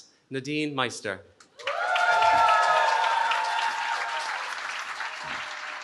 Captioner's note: cheering